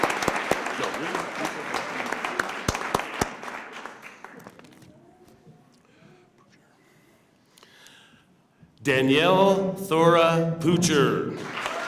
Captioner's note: cheers and applause